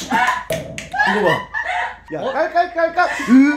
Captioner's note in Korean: 숨넘어가는 소리ㅋㅋㅋㅋㅋㅋㅋㅋㅋㅋ